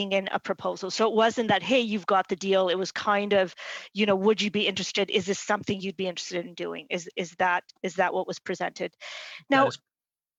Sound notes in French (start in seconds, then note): 5.1 voix de l'interprète